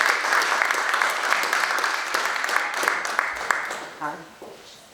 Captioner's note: audience applauds